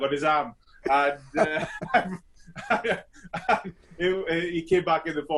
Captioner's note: both laugh